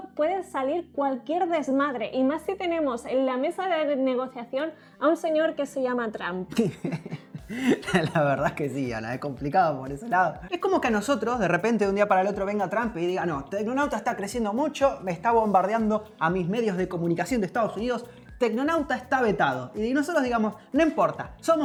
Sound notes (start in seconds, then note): 6.5 laughs